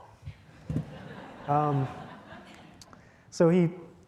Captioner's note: audience chuckling